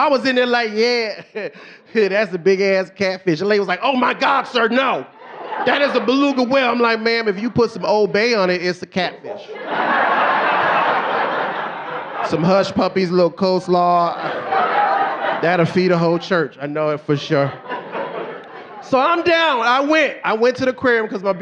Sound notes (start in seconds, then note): 11.0 audience laughing